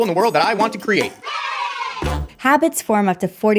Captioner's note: children cheering